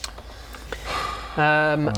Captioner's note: sigh